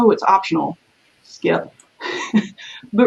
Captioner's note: laughs